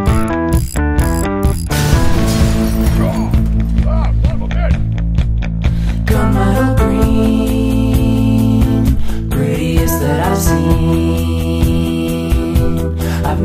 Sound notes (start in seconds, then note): 0.0 rhythmic ratchet screwing; 1.8 boom